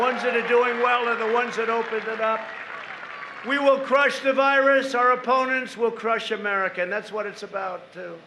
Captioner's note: applause